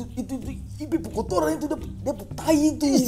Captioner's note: laughing